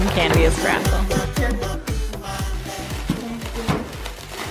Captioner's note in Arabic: حفيف لف الساران; ضربات على الطاولة